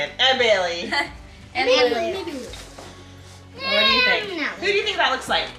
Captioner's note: children chattering